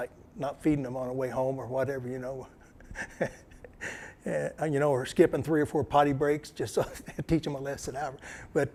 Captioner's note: laughter